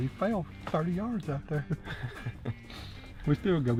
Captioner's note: laughing